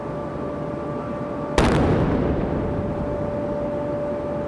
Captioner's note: cannon firing